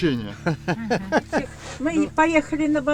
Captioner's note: laughs